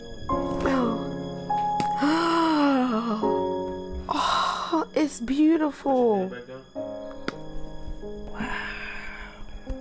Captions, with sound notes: (gasps) It's beautiful! - Put your head back down. - Wow!